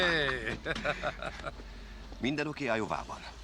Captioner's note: laughing